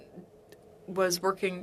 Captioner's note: speaking French